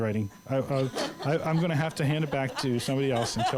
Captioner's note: laughter